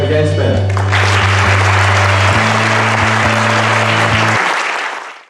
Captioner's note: ethereal music; applause